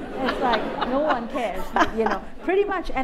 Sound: laughter

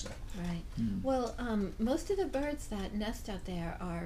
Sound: voiceover

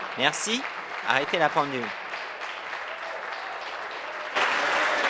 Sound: applause

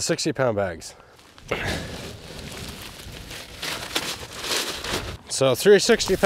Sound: paper bag rustling

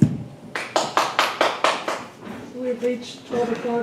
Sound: one person clapping

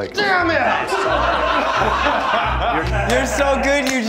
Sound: laughing

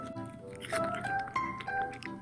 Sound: crunch

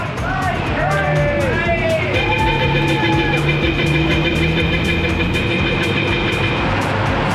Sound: crowd cheering; horn honking

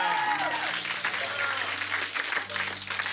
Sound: cheers and applause

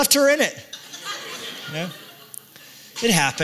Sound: laughter

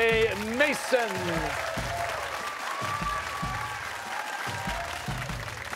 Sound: cheers and applause

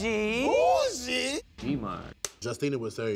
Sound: clapper board clips

